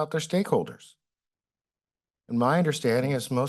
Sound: pause

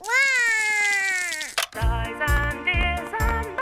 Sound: cries

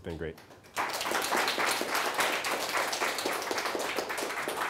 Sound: class applauding

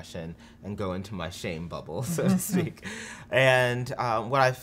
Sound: giggles

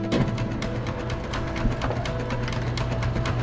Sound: rattling

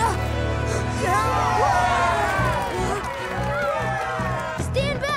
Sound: cheering

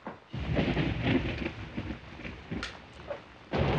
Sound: thunder blasting

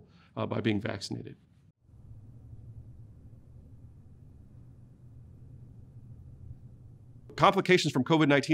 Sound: silence

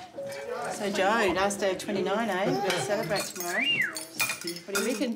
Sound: person whistles

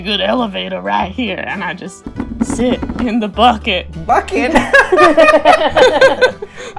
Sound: laughter

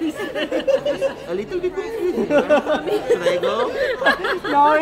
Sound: laughing drowns out speaking; people laughing and talking indistinctly

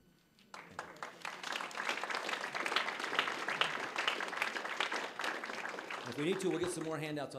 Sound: applause

